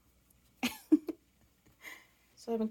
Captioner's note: giggle